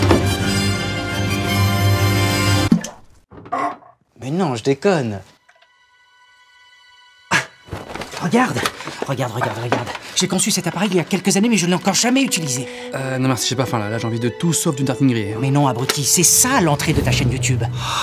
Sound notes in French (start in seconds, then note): 2.7 plouf; 7.1 petit rire gêné